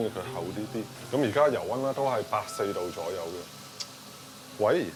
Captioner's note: the phone rings